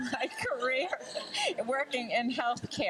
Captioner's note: laughs with crowd